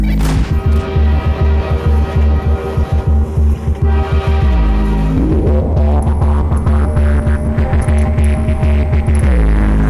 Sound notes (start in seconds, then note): 0.0 radio beeping; 0.0 slowed down gunshots; 0.5 train horn blaring; 5.2 intriguing music